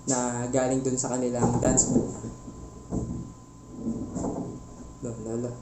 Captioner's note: rattling from upstairs